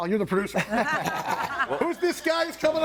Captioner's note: all laughing